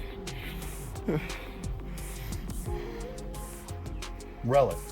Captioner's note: person breathing